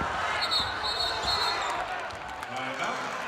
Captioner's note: whistle blows